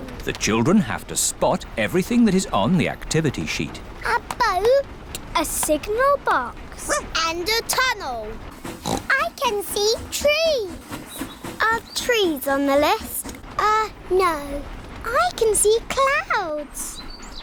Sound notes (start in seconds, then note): 8.8 oinks